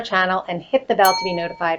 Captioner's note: bell dings